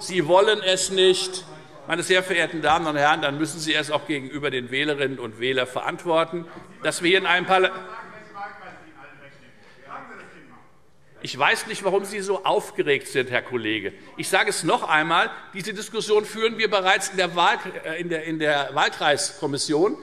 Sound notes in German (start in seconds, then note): none